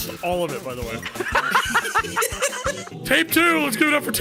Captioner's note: laugh